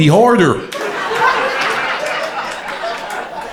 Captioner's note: crowd laughter